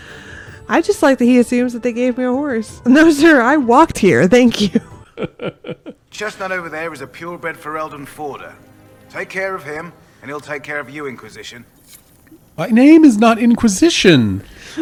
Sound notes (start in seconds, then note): 5.1 manly Chortle